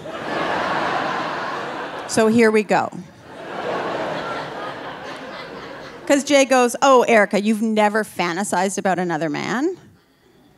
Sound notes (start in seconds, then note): 0.0 audience laughing